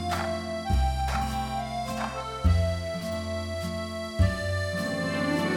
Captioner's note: tap, Tap, Tap